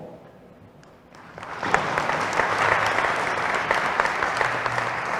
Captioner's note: applause